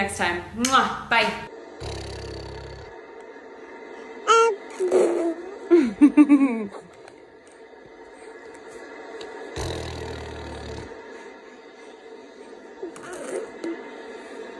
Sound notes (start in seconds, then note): 4.2 baby talking